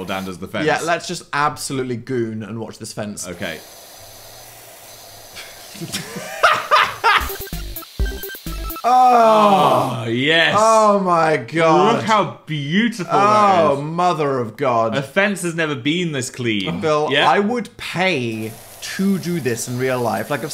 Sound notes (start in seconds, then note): 3.3 liquid hissing; 5.7 laughing; 7.0 upbeat music; 8.8 moaning